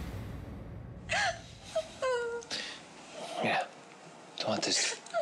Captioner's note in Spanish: sollozos